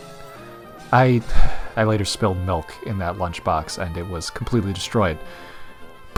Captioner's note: sighs